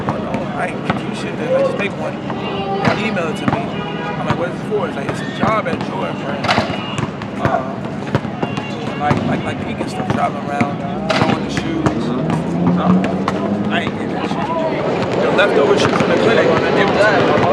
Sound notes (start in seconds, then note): none